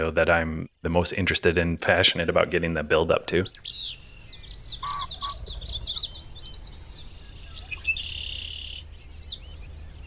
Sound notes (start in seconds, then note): 4.0 birds singing